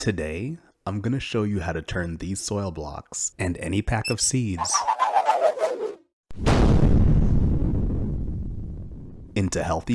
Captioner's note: explosion; whoosh